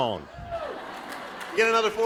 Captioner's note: cheering; laughing